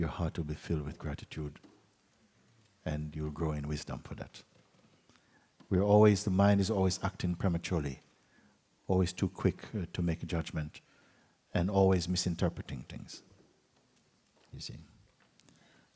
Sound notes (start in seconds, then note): none